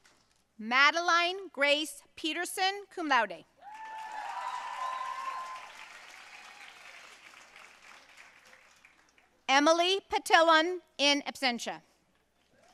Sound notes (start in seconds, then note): 3.6 audience cheering and applauding